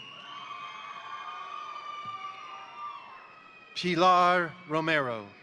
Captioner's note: crowd applauding; crowd cheering